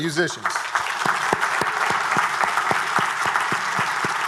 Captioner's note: everyone applauding